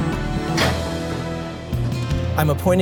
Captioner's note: door clicks open